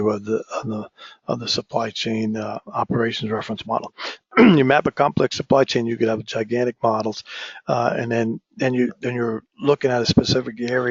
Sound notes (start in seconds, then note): 4.3 cough